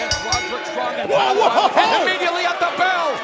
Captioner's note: bell ringing